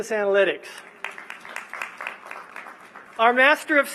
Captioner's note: applause